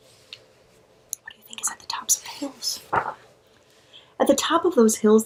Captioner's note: whispers